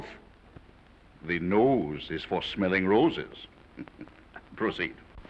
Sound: he chuckles

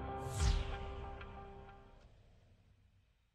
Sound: whooshing

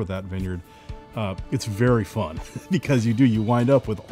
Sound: laughs

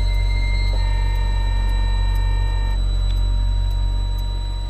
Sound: phone rings

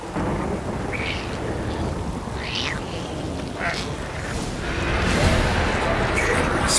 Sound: snarling, crying

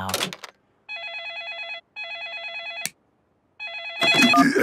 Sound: phone ringing

